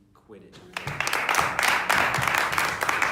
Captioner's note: cheering